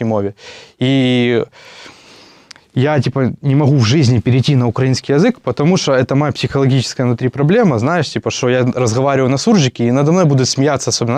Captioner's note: mixed Ukrainian and Russian language